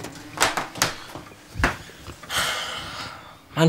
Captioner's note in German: Er seufzt